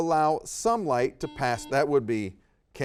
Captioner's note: buzzer beeping